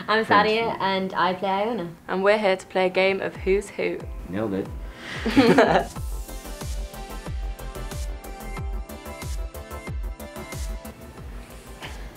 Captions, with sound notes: - I'm Thaddea, and I play Iona. - And we're here to play a game of Who's Who?. - Nailed it. (laughs) (upbeat music)